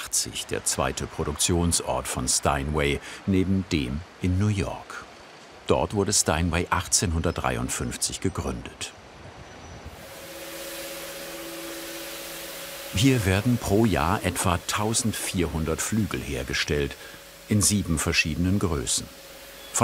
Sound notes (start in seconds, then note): 10.3 vacuum cleaner noises, grinding noises